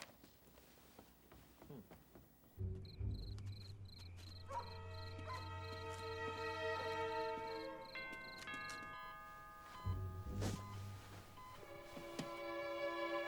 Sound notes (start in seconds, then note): 2.6 crickets chirping; 2.9 dog barks; 8.0 doorbell rings; 9.0 medical equipment beeping